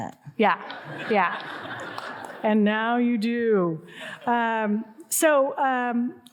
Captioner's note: audience laughing